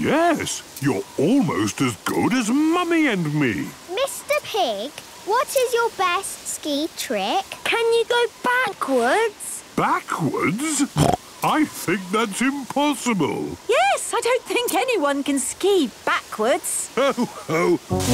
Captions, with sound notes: - Yes, you're almost as good as Mummy and me. - Mr. Pig, what is your best ski trick? - Can you go backwards? - Backwards? (snorting) I think that's impossible. - Yes, I don't think anyone can ski backwards. - Ho-ho!